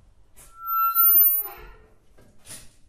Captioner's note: hinges squeak